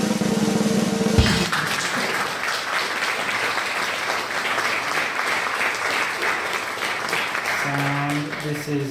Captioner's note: applause